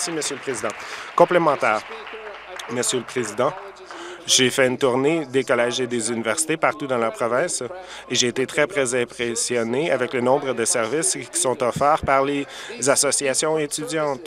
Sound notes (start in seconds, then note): 2.1 applause